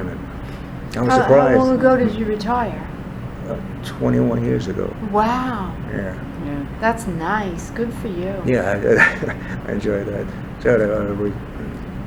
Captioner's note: laughs